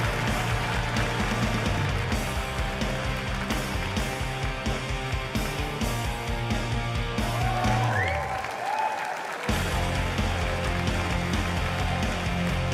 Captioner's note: cheers and applause